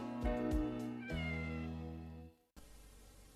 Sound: Mimsie mewing

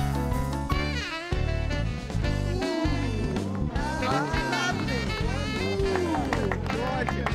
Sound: onlookers oohing and ahhing; applause

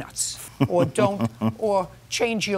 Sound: laughs

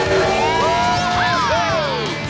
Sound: cheering

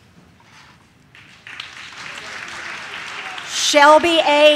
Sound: audience claps

